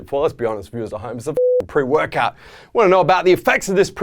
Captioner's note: beeping